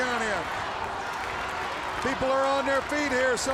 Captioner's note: crowd cheering